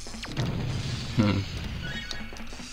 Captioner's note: giggle